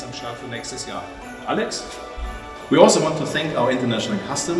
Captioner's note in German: englisch